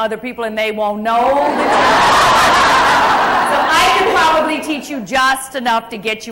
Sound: crowd Laughs

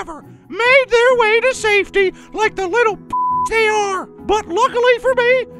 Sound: beep

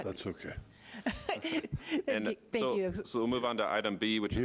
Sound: laughing

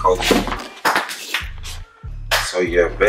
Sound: clap

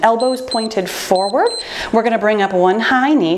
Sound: timer beeps

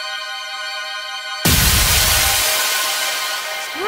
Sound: bolt of Lightning Strikes

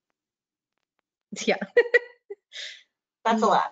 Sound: laughs

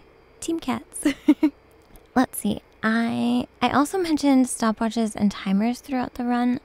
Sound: giggles

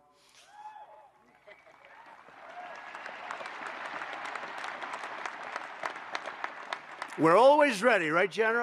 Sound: applause

